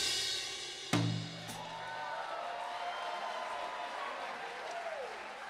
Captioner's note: applause, cheering